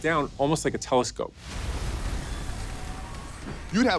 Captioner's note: train crashing